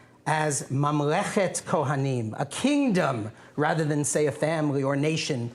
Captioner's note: non-english speech